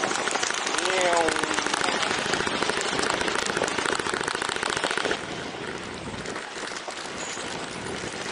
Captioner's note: applause